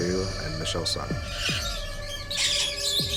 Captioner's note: birds tweeting